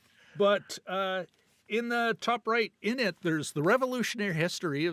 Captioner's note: laughing